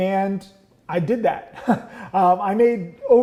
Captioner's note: laughs